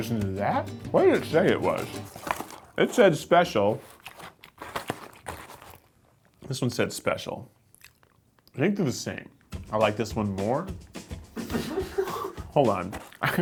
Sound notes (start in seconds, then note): 11.4 laughing